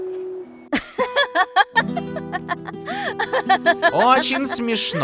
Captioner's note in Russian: смеётся